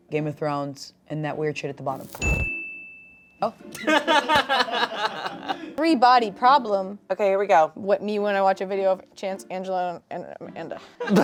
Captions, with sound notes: "Game of Thrones", and that weird shit at the bottom. Oh. (everyone laughing) - "Three Body Problem". - Okay, here we go. - What, me when I watch a video of Chanse, Angela, and Amanda.